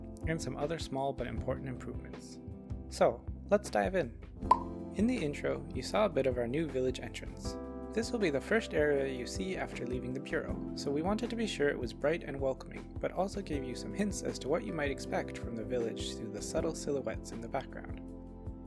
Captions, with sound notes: and some other small but important improvements. So let's dive in. *pop* In the intro, you saw a bit of our new village entrance. This will be the first area you see after leaving the Bureau, so we wanted to be sure it was bright and welcoming, but also gave some hints as to what you might expect from the village through the subtle silhouettes in the background.